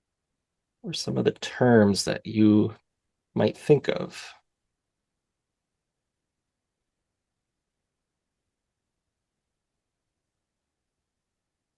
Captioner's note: silence